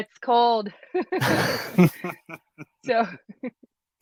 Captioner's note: both laughing